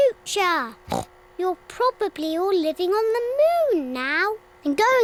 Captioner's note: oinks